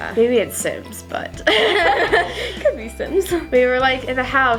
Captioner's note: both laugh